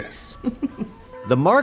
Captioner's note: laughing